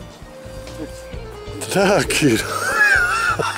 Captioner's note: laughing